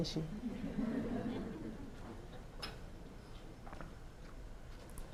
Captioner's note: scattered laughter